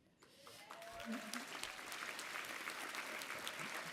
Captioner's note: applause and cheering